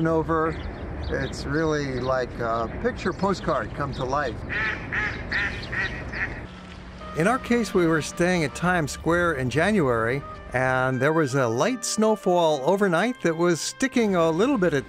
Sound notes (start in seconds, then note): 4.4 geese quack